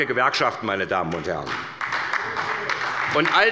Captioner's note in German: Beifall bei der SPD